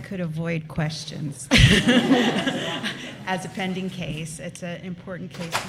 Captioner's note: laughter